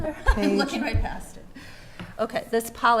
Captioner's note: laughing